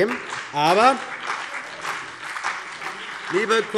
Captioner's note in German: Beifall CDU und BÜNDNIS 90/DIE GRÜNEN